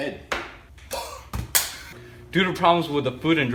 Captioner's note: egg crashing; exhales loudly